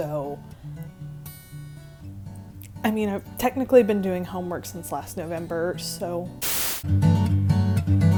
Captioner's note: cut off by static